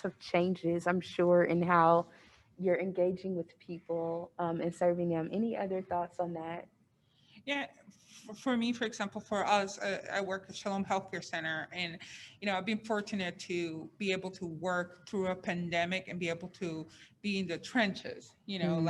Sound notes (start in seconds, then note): none